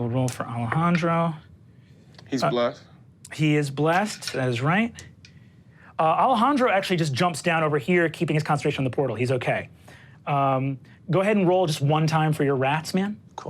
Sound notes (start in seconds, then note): none